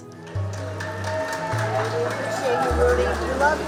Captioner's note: cheers and applause